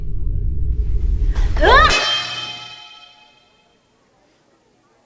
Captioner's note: Yuen shouting